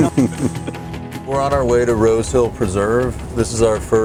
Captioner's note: laughing